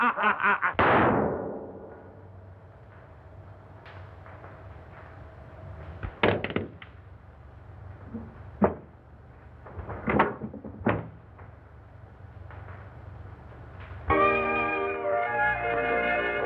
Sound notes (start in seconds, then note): 0.7 gunshot